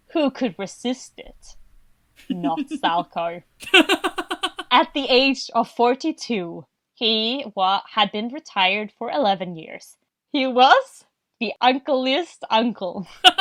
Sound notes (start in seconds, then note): 3.6 laughs